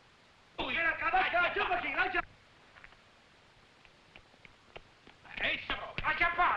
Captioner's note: officers shouting in foreign language